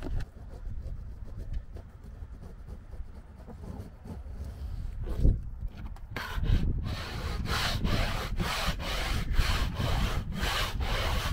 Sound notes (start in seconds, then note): 6.1 scraper scraping roof deck